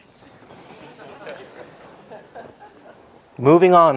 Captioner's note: audience laughs